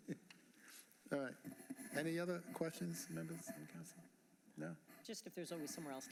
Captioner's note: laughter